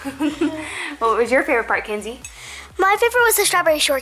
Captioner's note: laughs